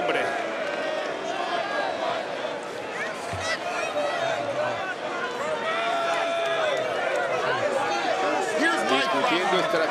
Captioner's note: applause